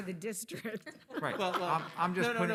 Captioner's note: attendees laughing